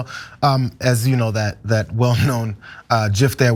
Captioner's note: laugh